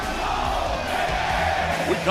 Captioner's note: fans chanting